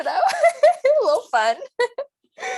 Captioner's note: laughs